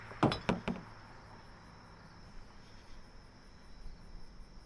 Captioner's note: bottle clanking